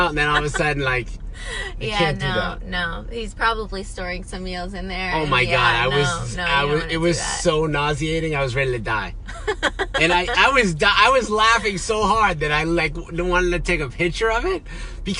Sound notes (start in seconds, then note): 9.3 laughs